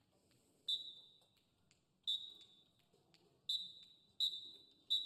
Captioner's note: whistle blowing